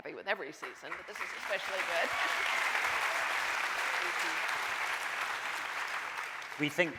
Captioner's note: audience cheering